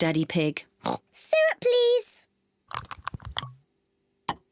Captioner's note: oinks